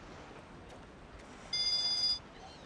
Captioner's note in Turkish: Telefon çalıyor